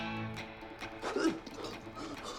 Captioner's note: retches; vomits